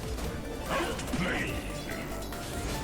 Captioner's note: game audio